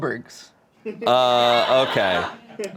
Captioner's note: crew laughs